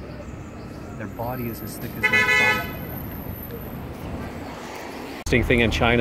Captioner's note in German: Hupende Hupen – ziemlich häufig